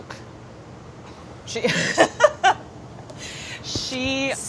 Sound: laughing

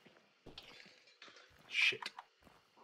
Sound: walking on glass

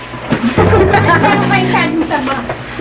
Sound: laughs

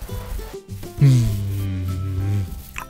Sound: not so cute boi purr

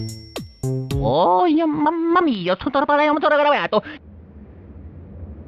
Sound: moar Italian gibberish

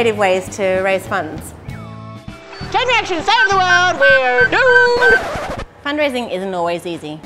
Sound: record scratch

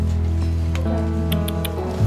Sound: tongue clicks

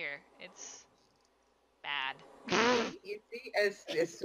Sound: laughs

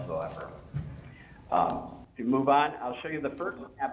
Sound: audio fading in and out

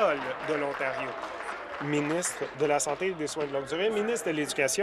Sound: applause

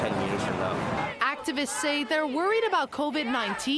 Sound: chanting

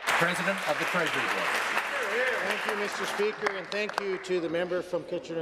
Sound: applause

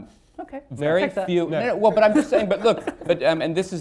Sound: laughter

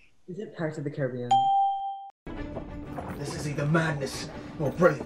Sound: ding

